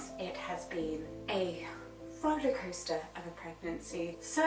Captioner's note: none